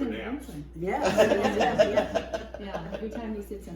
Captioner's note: laughs